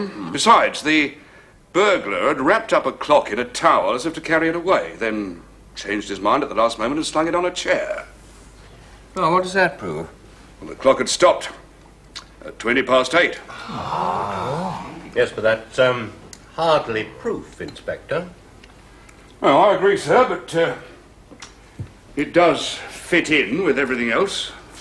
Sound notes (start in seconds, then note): 13.5 all gasp